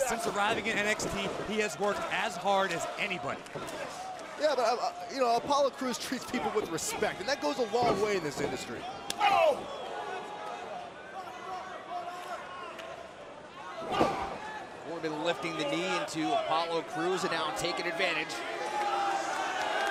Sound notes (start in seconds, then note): 10.4 crowd chatter